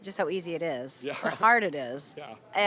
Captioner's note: laughing